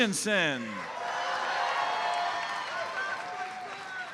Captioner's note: audience cheers and applauds